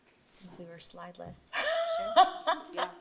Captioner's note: laughs